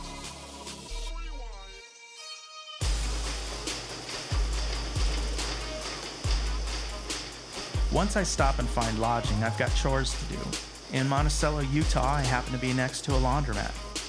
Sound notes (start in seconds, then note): 2.8 washing machine keeping time with the music